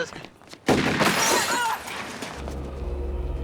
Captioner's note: firing and glass shattering